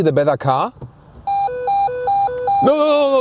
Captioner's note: angry car noises